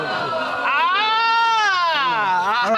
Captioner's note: crowd hooting